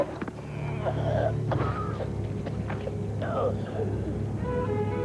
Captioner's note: raspy coughing